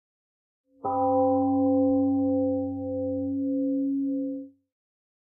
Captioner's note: temple gong rings, then fades out